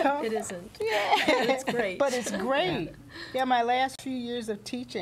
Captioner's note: laughter